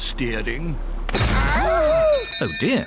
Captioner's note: clattering; bell ringing